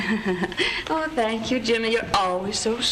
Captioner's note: laughs